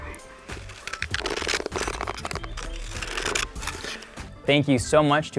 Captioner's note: scissors cutting